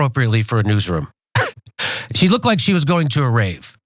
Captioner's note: laugh